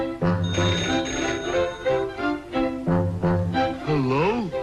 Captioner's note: phone ringing